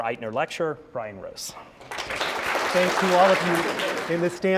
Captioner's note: applause